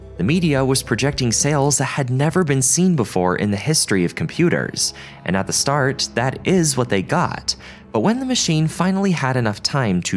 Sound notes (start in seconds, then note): none